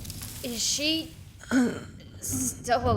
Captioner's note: wheezes